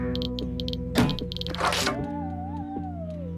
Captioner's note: clicking